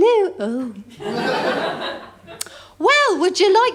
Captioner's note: laughter